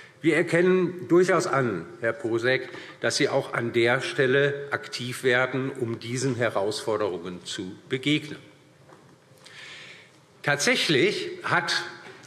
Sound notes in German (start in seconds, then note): none